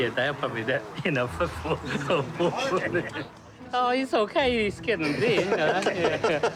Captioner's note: laughter